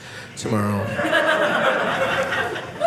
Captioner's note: audience laughing